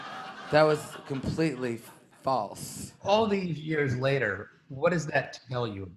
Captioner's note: laughter